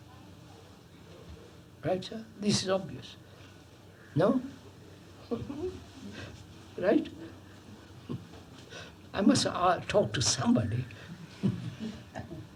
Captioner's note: laughs